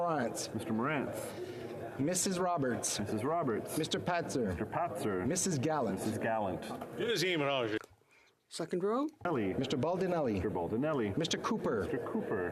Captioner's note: calling of recorded vote